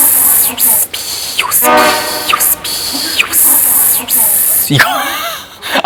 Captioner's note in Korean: 매섭게 울어대는 매미